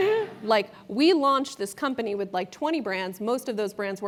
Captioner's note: laugh